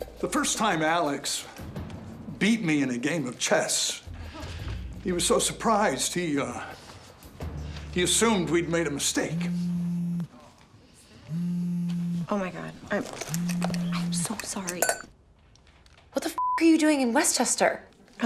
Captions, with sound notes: - The first time Alex beat me in a game of chess he was so surprised he assumed we'd made a mistake. (phone buzzing) - Oh my God. I'm so sorry. - What the (beeps) are you doing in Westchester?